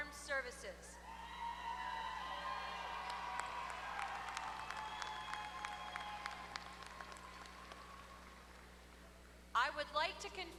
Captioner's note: applause